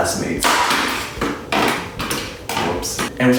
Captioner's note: loud crash